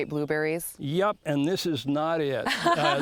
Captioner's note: laughs